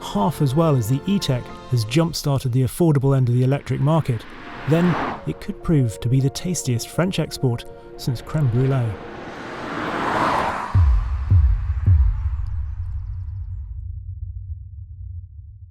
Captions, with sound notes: half as well as the E-Tech has jump-started the affordable end of the electric market, then it could prove to be the tastiest French export since creme brulee. (car roaring) (dramatic booming)